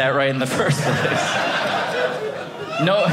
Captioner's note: audience laughing